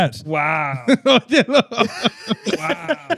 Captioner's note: laughing